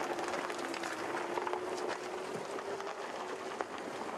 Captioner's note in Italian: Applauso